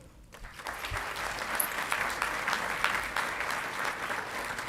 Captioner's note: audience clapping